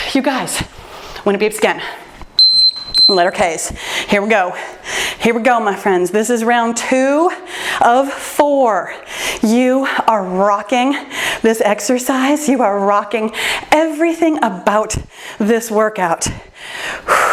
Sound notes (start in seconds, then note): 2.4 timer beeps